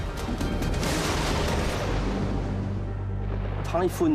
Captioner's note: thunder crashes